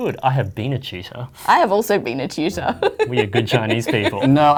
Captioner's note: laughs